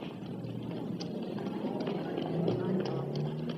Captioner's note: chattering